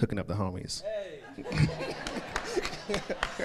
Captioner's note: laughs